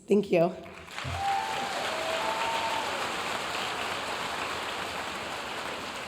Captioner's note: audience cheering and applauding